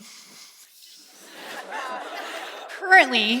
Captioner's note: laughter